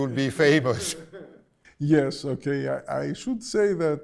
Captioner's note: laughs